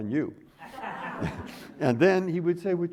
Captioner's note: audience laughing